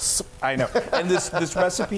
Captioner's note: laughs